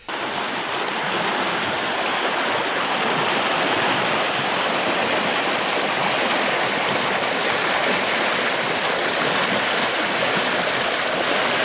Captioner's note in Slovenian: šum vode